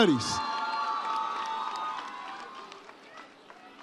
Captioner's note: audience cheers